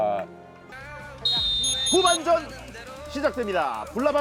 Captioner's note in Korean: 호루라기 소리